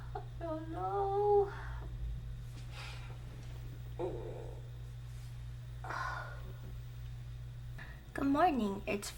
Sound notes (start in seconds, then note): 0.5 near tears